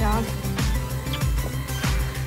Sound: kissing

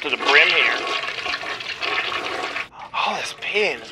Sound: toilet flushes

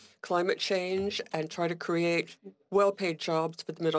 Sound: speaking French

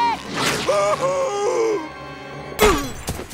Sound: screaming

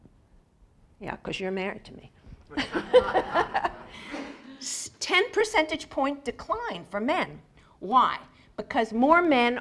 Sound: laugh

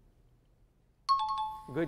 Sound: timer bell

